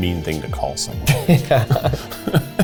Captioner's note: laughing